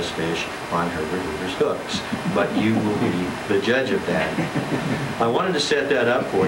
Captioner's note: laughter